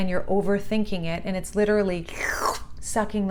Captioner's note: makes sucking sound